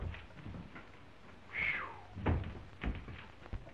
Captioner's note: exhales loudly